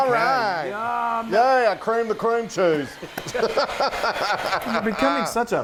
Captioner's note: laughs